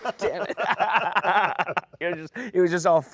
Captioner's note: both laughing